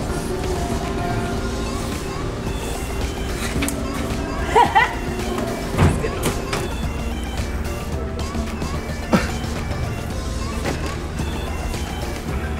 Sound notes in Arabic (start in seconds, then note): 4.0 يضحك; 9.0 يضحك